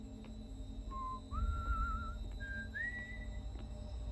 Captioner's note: whistling